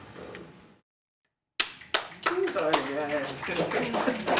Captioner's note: applause